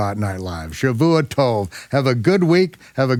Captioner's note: speaks in foreign language